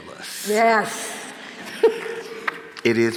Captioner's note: chuckles